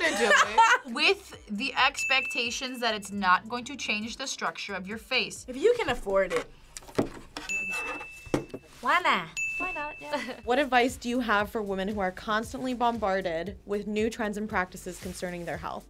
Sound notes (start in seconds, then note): 0.0 laughs; 9.3 bell rings